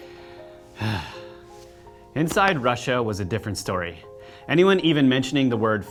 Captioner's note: sighs